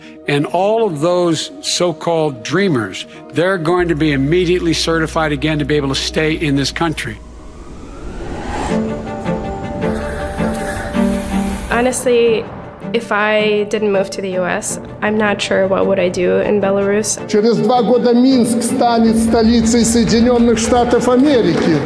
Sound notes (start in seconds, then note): 7.4 woosh sound; 9.7 city noises